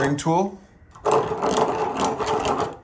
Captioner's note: drill whirring